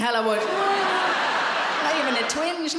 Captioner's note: audience laughs